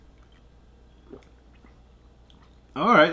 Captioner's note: drinking sound